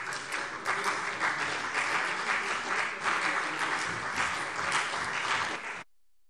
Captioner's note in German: Beifall CDU und BÜNDNIS 90/DIE GRÜNEN